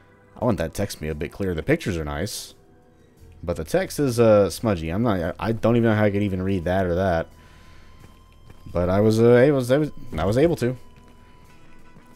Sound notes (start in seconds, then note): none